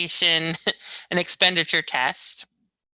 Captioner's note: laughs